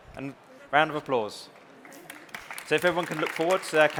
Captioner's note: round of Applause